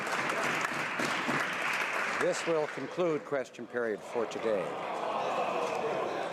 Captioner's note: some Applause